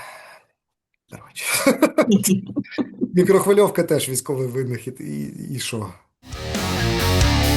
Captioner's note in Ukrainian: сміється